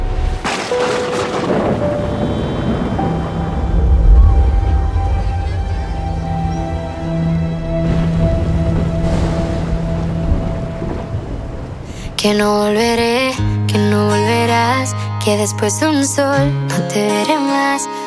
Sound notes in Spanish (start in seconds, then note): 4.3 gente hablando